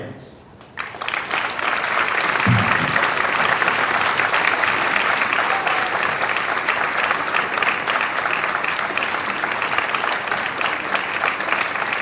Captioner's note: applause